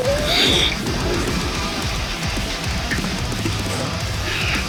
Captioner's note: heavy breathing